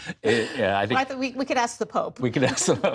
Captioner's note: laughter